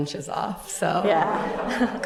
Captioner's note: laughter